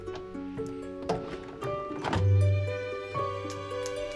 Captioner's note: clanking; typing